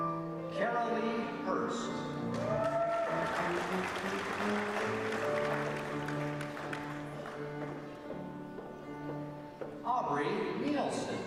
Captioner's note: applause